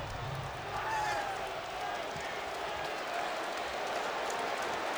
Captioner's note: crowd clamoring